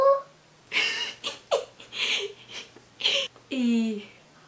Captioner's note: giggling